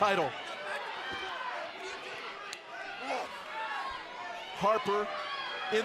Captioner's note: crowd chatter